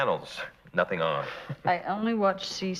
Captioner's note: laughing